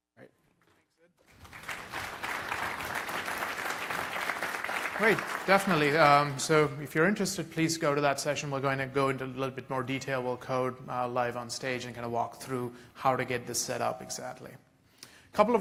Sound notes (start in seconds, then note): 1.2 applause